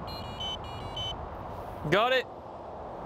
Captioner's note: machine beeping